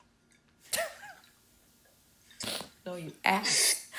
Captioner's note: chuckling